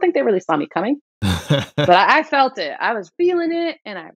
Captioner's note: laughter